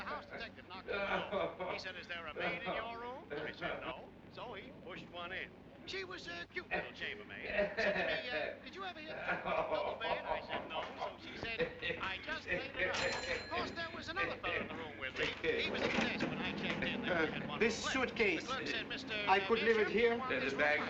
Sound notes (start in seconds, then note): 7.4 Mr. POTTER LAUGHING